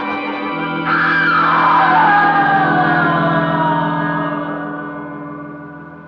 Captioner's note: drawn out scream